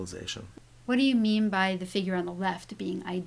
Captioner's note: voiceover